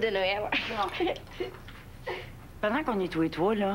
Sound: Rires

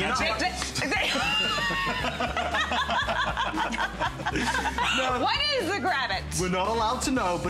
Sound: laughter

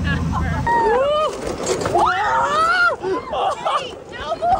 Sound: screams

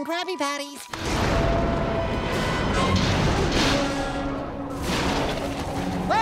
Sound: thundering

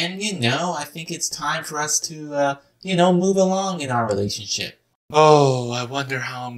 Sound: speaking

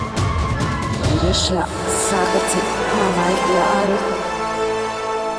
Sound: chanting spell

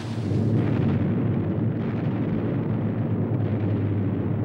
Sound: bombs exploding

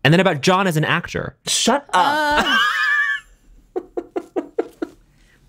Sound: laughter

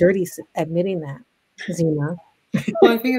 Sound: laughs

